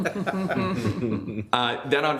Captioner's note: group laughs